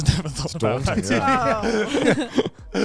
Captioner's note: hosts laugh